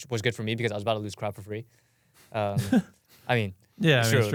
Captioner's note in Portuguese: risos